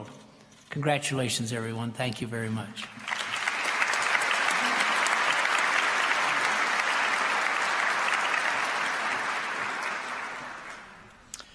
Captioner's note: applause